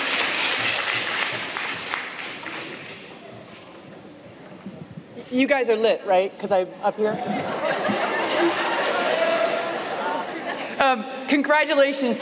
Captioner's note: applause